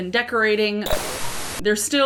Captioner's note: static